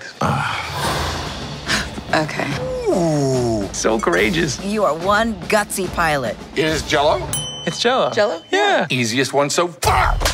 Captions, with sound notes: ETHAN Ugh. [Gasps] GABRIELLE UNION Okay. DENNIS QUAID Ooh. JAKE GYLLENHAAL So courageous. CALLISTO You are one gutsy pilot. DENNIS QUAID It is jello? JAKE GYLLENHAAL It's jello. -Jello. -Yeah. DENNIS QUAID Easiest one so far!